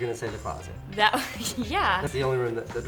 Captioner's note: laughs